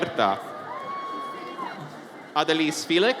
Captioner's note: audience cheers